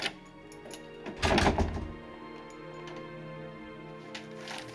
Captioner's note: door rattling; soft dramatic music